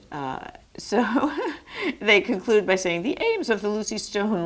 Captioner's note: laughs